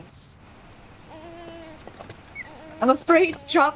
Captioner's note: baby whining